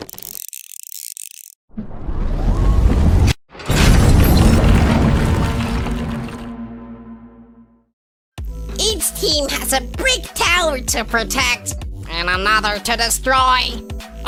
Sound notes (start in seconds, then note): 1.7 whiring sound effect; 3.5 loud crash